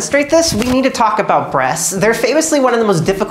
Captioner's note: shirt ruffling noises